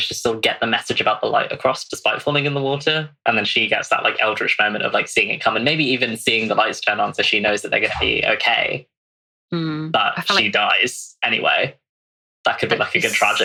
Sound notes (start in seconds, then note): 3.6 laughs